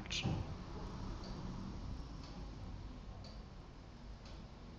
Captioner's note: clock ticking